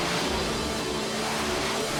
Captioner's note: jets zip